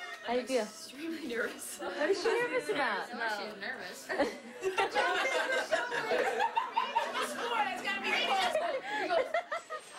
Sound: laughter

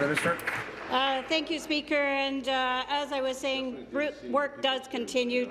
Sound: applause

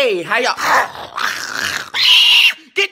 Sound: snarling noises; piercing shriek

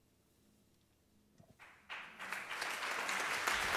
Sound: applause

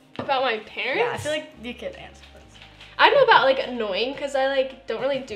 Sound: none

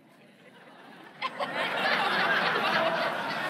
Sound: laughs

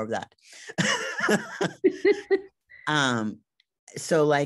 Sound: both laugh

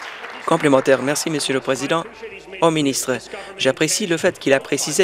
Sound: some Applause

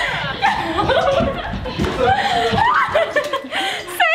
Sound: laughing

